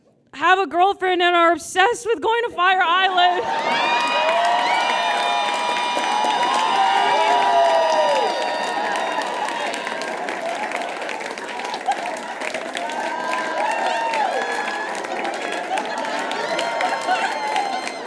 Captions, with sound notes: have a girlfriend and are obsessed with going to Fire Island. (audience cheers uproariously and applauds) (audience laughs) (audience cheers and applauds)